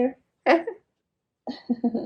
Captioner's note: laughs